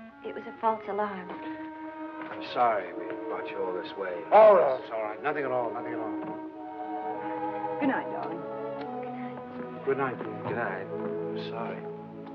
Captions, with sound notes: It, it was a false alarm. -I'm sorry we brought you all this way. -Oh, that's all right. Nothing at all, nothing at all. -Good night, darling. -(WHISPERING) Good night. -Good night, dear. -Good night.